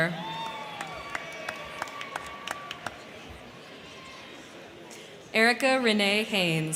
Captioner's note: crowd cheering; crowd clapping